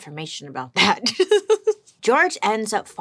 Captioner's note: giggles